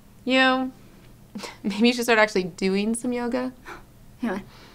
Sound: snigger

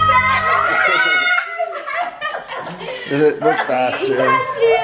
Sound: cheering

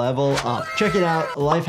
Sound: graphic whines and clicks

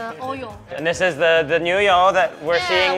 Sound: speaking Mandarin

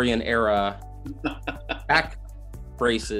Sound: laughing

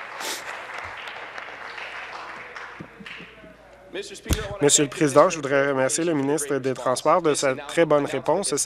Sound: applause

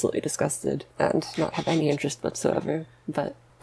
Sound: laughs

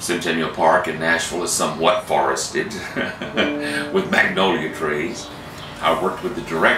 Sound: laughs

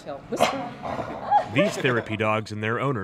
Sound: dog grumbles

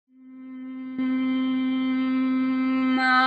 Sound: humming

